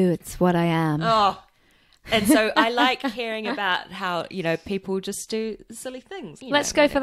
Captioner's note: groans